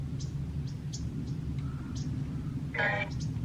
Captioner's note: radio sound